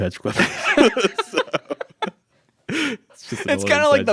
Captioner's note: laughs